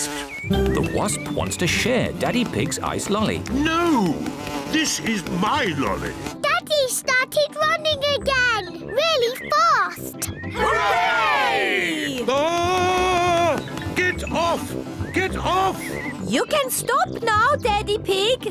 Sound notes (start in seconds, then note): 10.5 screams